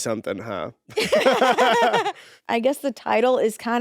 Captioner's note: both laughing